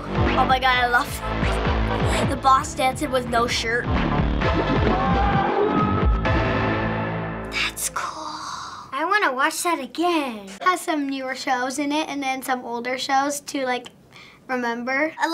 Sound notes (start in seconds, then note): 4.8 boss screaming; 7.5 whispers